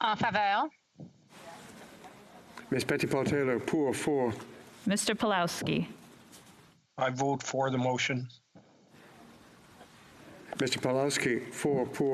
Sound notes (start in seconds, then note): 4.4 speaking French